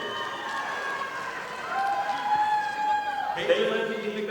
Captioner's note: audience applauding